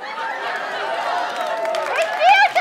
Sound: audience laughs and cheers

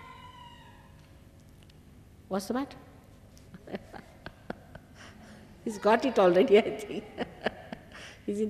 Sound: shri mataji laughs

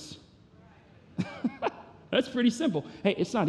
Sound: laughs

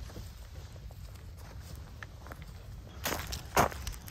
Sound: footsteps

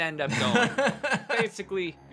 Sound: laughs

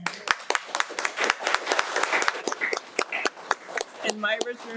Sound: applauds

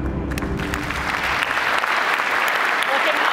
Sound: applause

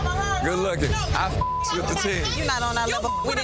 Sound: beep

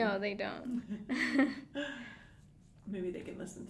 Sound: both laughing

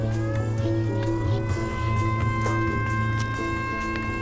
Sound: sirens blaring

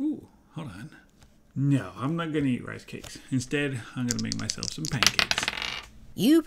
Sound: sounds of dice being shaken and thrown

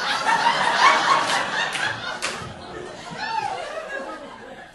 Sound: audience laughing

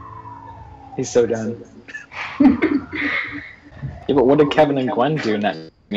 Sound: laughter

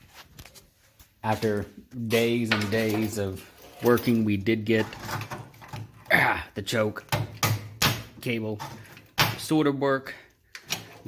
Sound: grunt

